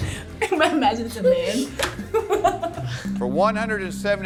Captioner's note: both laugh